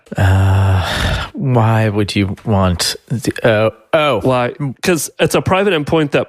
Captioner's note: sighs